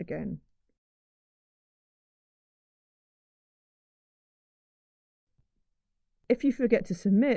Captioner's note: silence